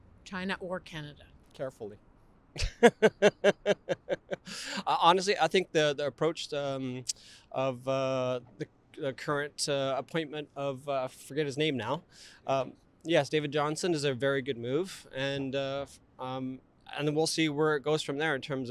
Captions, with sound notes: China or Canada. Carefully! - [Laughs] Honestly, I think current appointment of-- - the approach of the forget his name now-- is a very good move. - yes, David Johnson-- goes from there, in terms - And we'll see where it